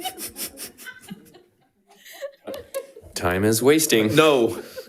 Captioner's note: board Members laughing